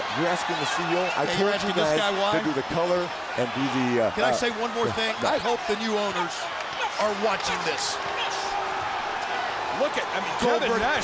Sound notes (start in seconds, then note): 0.0 crowd chatter; 0.9 crowd cheering; 9.1 crowd cheering